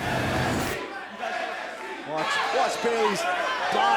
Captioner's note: crowd chatter; crowd cheering